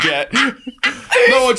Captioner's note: laughing